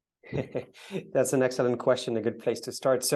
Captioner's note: laughs